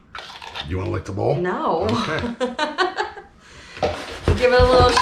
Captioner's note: laughing